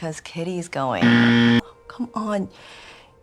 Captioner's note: loud incorrect buzzer